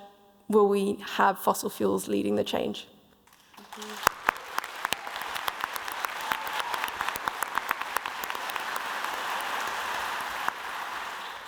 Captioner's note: applause